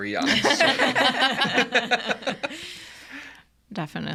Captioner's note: everyone laughing